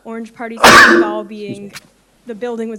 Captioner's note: coughing